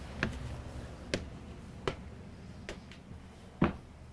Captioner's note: footsteps